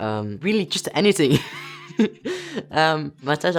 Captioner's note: laughs